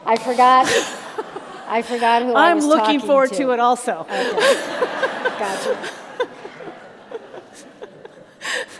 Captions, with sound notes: - I forgot who I was talking to. - I'm looking forward to it also. - Okay, gotcha. (all laugh)